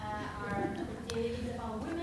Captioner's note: people laughing